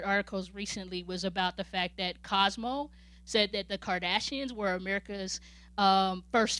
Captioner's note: none